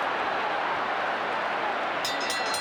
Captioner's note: applause